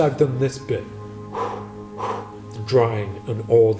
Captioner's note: blows air